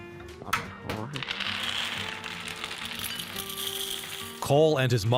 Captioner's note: Cheerios rattling